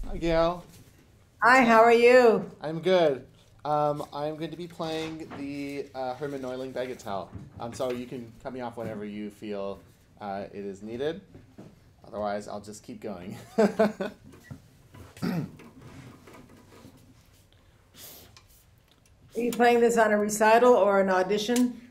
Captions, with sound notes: Hi, Gail. – Hi, how are you? – I’m good. I’m going to be playing the Hermann Neuling Bagatelle. So you can cut me off whenever you feel it is needed. Otherwise I’ll just keep going. [laughs] Are you playing this on a recital or an audition?